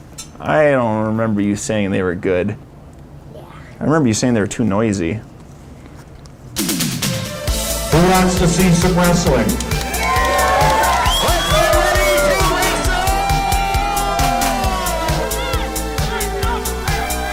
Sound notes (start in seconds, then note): 10.0 cheering; 14.7 upbeat music